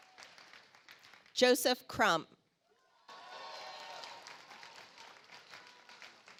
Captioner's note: audience applauds